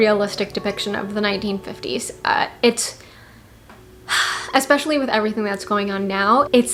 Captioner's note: sigh